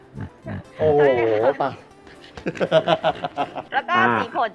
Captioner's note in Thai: หัวเราะ